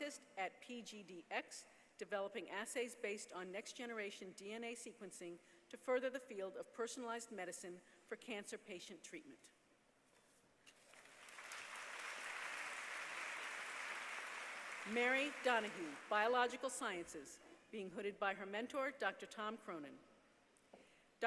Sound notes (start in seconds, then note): 10.8 applause